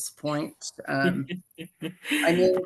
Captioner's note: laughs